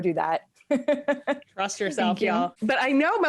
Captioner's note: laughs